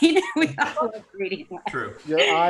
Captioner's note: laughs